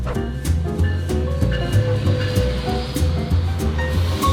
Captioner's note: upbeat music; train bell ringing